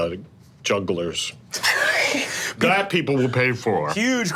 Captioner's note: laughing